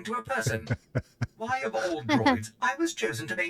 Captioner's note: laughs